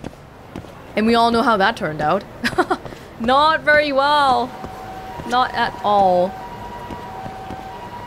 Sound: chuckles

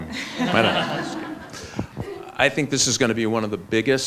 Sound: laughs

